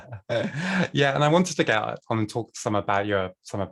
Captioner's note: laughter